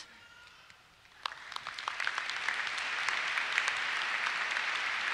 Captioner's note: applause